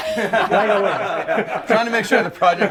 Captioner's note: group laughing